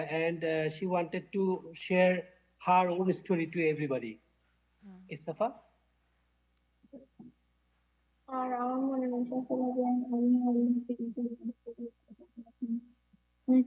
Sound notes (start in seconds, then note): 8.5 speaking in foreign language